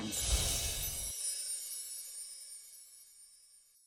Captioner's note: chimes